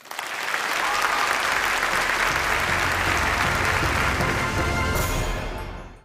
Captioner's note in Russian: Аплодисменты